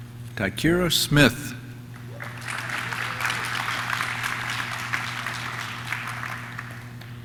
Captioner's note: audience claps; audience cheers